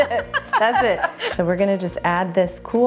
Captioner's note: laughing